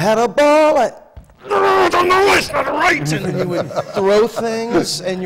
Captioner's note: screams; laughter